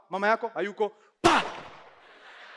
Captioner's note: gun shot